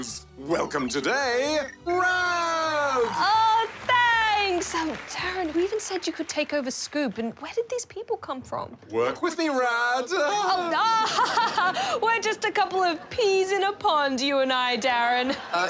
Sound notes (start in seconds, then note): 10.2 chuckles; 10.2 laughs falsely